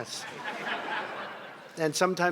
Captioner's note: laughter